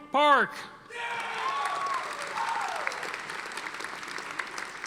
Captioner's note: audience applauding